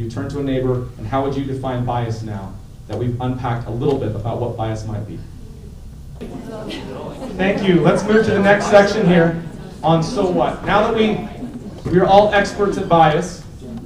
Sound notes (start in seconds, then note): 5.9 audience talking